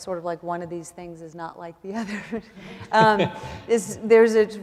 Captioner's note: laughs